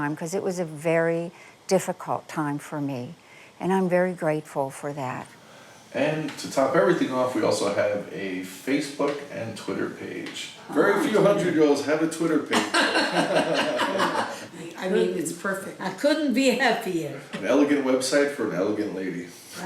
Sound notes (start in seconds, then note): 12.4 all laughing